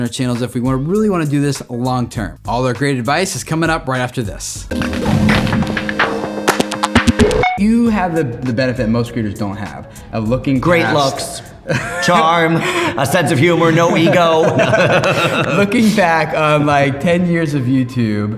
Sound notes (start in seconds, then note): 4.6 exciting rhythmic music; 14.0 men laughing